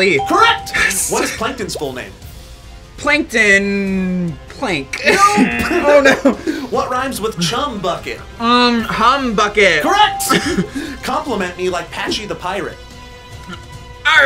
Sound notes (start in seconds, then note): 0.0 electronic bell chimes; 5.0 laughs; 9.9 electronic bell chimes